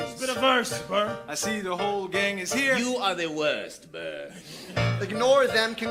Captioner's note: laf